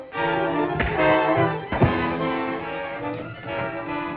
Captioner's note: punch thuds